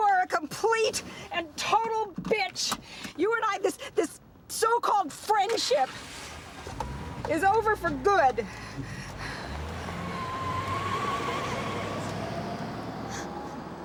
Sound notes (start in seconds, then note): 10.5 tires screeching